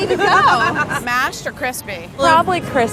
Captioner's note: laughter